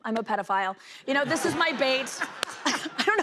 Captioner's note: laughter